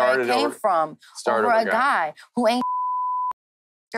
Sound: beep

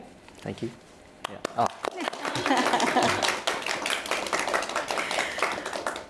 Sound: audience applauding

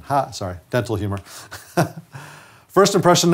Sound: man laughs

